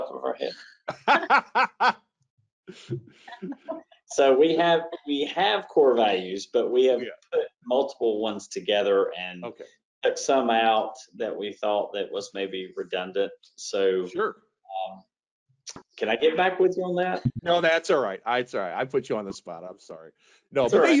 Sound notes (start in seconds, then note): 0.8 laughing